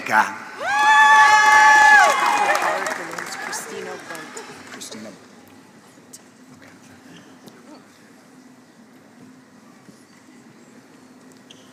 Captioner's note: applause